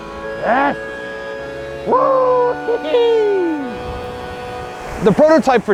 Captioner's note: laughing